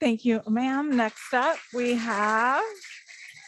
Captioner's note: audience clapping